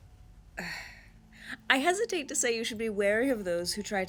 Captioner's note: sighs